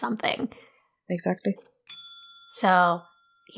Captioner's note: bell dings once again